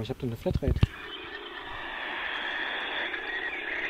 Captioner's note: birds chirping from the audio guide